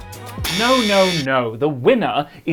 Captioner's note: buzzer